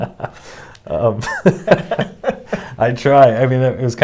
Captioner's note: laughing